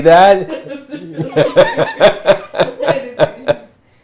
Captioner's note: laughing